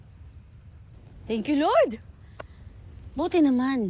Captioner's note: lira sighs